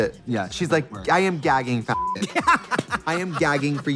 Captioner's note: beep